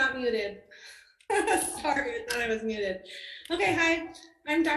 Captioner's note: laughs